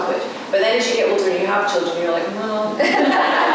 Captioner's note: laughter